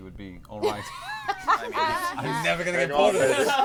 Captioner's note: laughter